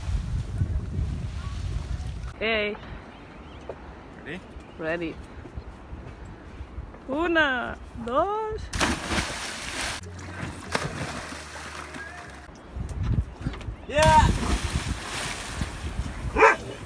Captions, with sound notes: Okay! Ready? Ready, ona, dos ... (splash)